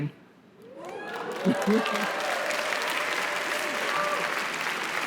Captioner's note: audience cheers